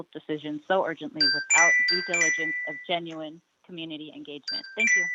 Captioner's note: chime